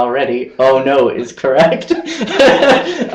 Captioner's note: speakers laughing